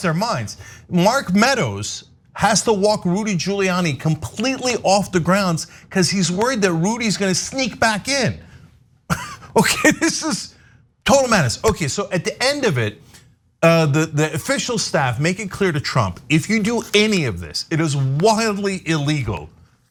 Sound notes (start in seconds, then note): 9.1 laugh